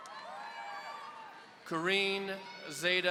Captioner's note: audience cheering